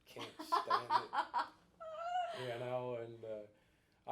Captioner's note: laughing